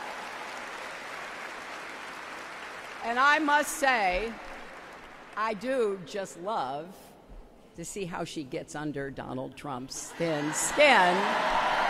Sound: applause

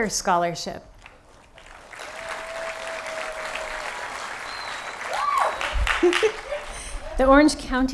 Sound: applause

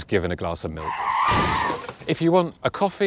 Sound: crash sound

